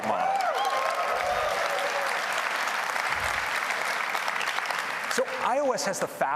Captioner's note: applause